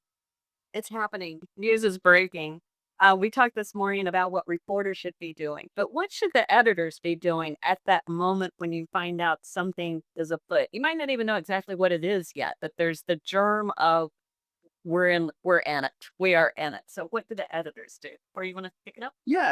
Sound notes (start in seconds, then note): none